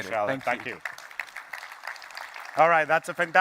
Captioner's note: applause